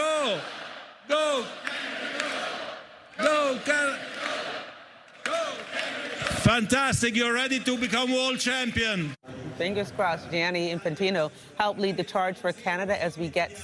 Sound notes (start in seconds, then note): 5.1 applause